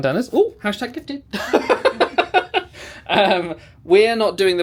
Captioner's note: laughs